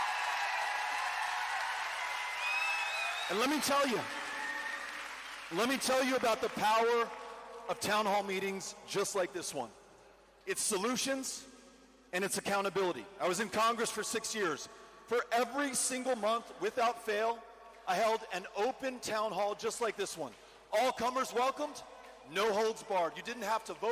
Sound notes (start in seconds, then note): 3.3 cheering